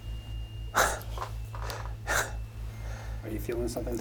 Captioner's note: laughs